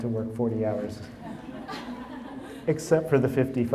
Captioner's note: audience laughing